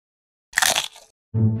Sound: chomps; quiet music

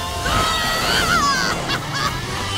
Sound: laughing

